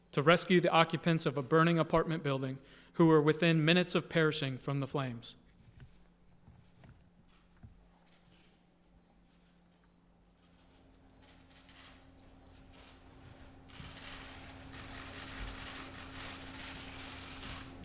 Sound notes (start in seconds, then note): 5.9 applause